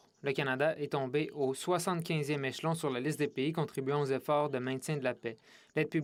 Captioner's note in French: voix de l'interprète